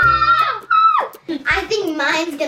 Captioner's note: cheers